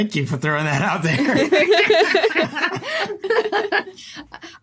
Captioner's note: group laughing